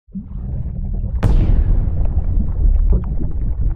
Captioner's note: water bubbling